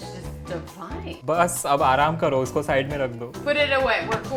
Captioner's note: speaking in Hindi